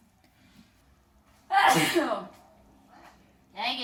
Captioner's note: sneezing